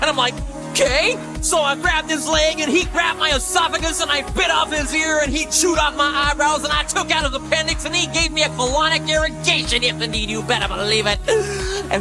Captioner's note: gasp